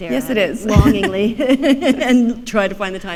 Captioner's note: chuckle